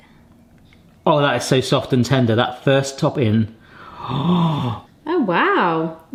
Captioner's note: gasps